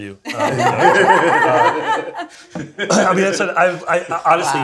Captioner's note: everyone laughs